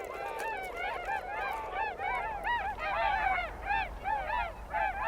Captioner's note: swans cawing